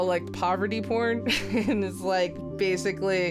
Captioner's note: laughs